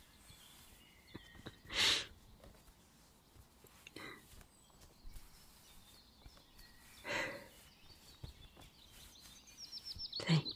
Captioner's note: chuckle; bandaging sounds